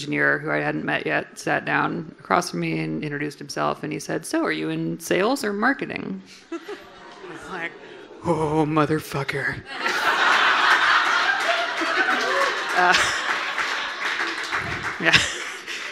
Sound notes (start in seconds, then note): 6.4 audience groaning; 9.7 audience laughing and applauding